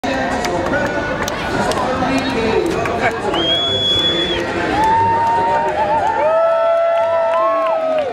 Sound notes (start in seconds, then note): 3.2 cheering and whistling; 3.3 whistles; 5.6 cheering